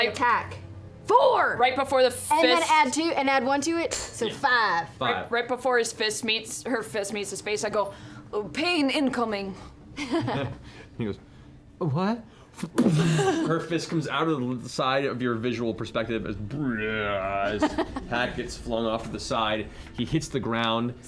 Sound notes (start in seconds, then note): 11.9 impact